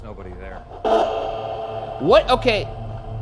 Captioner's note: device buzzes and thrums